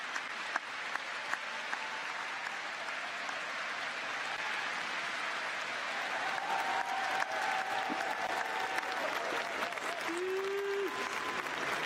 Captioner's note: applause